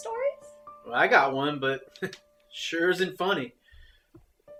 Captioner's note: chuckles